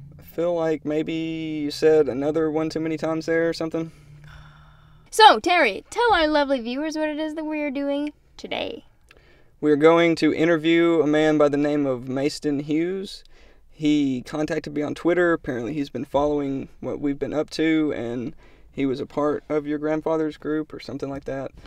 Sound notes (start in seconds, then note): 3.8 sighs